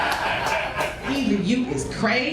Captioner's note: crowd laughs